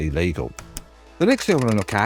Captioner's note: typewriter clacking